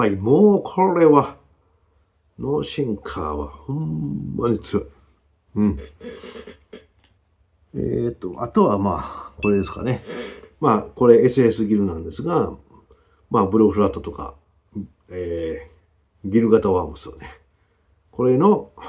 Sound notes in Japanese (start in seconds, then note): 5.8 咳払い